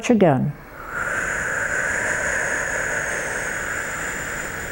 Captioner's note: breathing heavily